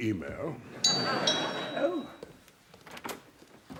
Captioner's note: doorbell